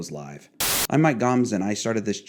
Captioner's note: static buzzes